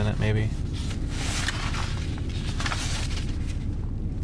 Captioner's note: sound of pages turning